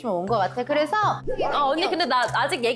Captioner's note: flustered sound effect